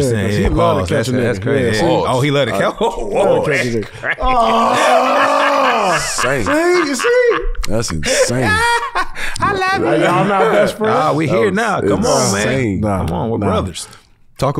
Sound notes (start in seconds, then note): 3.1 laughs; 4.2 grunts